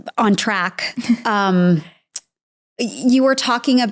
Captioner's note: chuckling softly